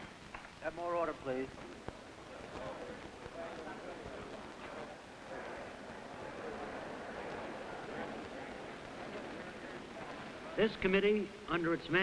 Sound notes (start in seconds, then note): 1.8 murmuring